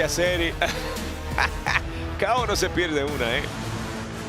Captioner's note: laugh